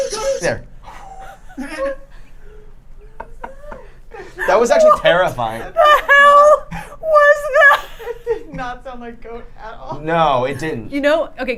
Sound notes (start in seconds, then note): 2.9 group laughing